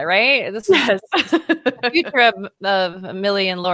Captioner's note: laughing